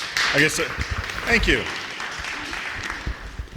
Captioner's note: applause